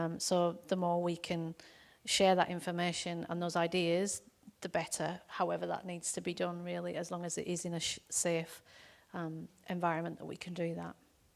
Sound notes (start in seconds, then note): none